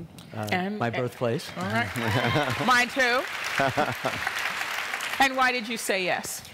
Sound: applause

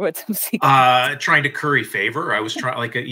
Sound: chuckles

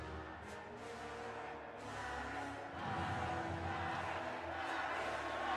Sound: crowd

